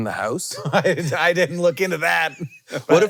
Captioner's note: laughs